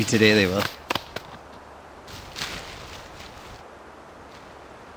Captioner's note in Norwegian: plystrende vind